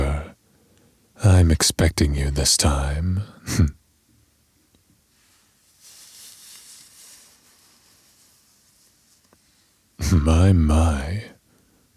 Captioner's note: fabric movement